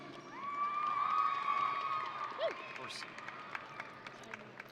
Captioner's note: audience cheering